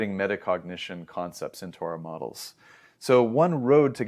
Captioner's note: inhales